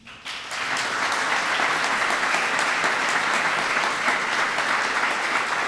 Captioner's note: applause